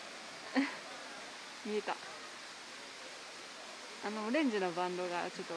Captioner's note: laughs